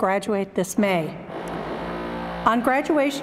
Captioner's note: drilling sounds